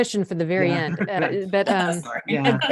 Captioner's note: chuckles